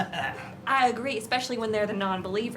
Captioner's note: laughs